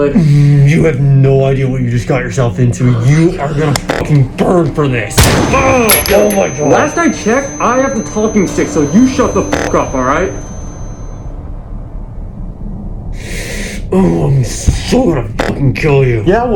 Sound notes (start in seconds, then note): 3.1 whispering; 5.2 gunshot